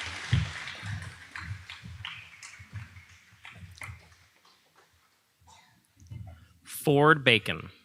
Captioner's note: audience applauding